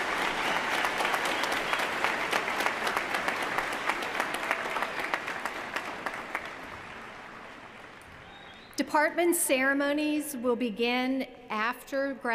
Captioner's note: cheers & applause